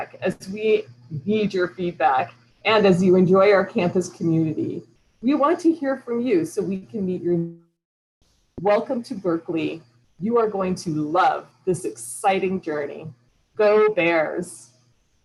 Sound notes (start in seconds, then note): 7.7 audio cuts out